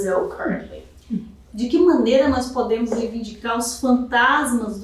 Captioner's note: speaking portuguese